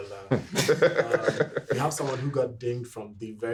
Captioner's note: everyone laughing